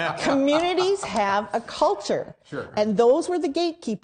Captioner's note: laughter